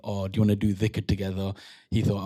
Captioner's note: non-english